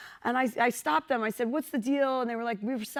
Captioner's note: none